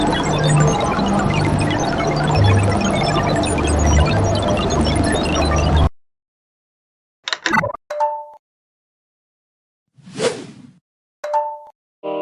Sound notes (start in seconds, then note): 7.3 random notification sound; 11.3 random notification sound